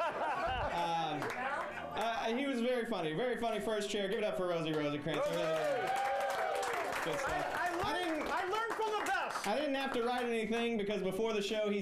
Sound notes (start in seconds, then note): 5.1 audience cheering